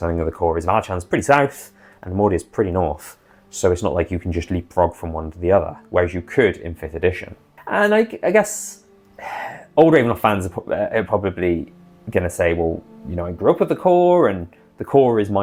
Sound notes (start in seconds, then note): 9.2 sigh